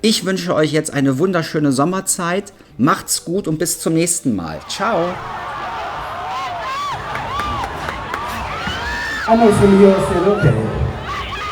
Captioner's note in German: jubel; schreien